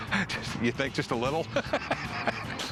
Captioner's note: laughs